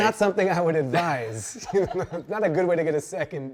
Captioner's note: both laughing